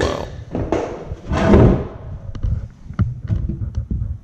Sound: boards tapping

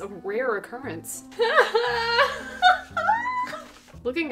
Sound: laughing

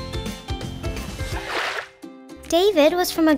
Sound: water sloshing

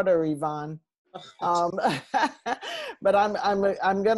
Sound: laughter

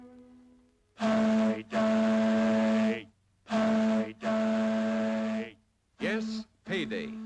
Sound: echos

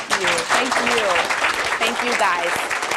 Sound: applause

